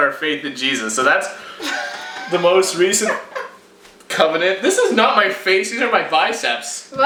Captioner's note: laughter in background